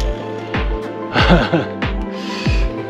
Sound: laughter

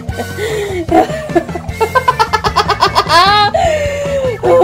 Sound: evil laughter

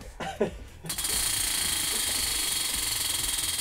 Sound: wheel clicking

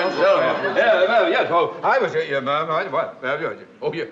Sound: stammering

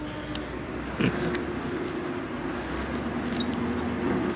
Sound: heavy breathing; churning of heavy machinery

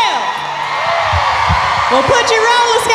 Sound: audience cheering

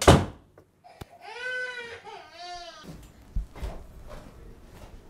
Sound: door slamming; baby crying

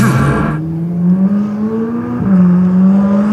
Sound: car Accelerating

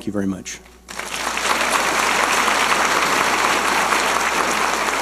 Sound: audience applauding

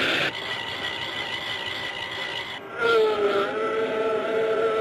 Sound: metal groaning

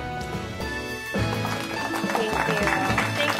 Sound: audience applauding

